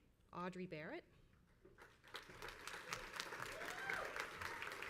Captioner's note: crowd applauds